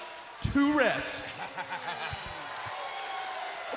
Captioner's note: Big E laughs; crowd roars